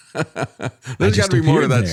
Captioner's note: laughs